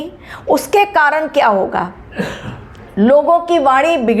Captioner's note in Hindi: गला साफ़ करने की आवाज़